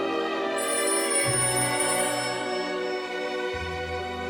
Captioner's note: phone rings